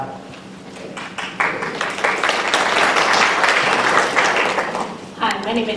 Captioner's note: applause